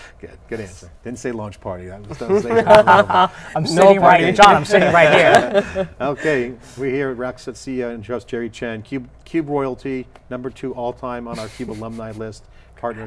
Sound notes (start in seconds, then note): 2.2 laughing